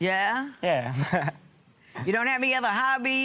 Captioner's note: chuckles